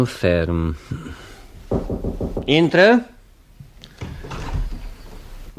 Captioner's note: sound - knocks on the door